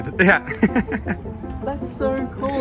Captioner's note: chuckles